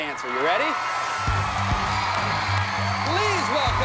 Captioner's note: applause